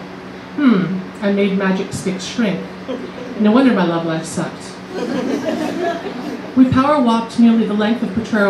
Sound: laughter

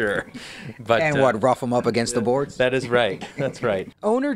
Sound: laughter

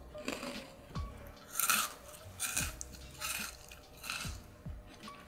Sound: cookie sound

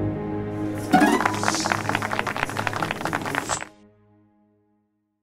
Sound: applause

